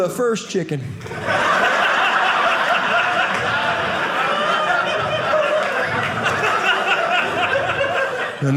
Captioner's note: audience laughing